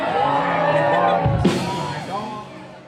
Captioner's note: crowd cheering